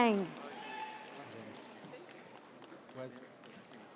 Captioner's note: audience cheers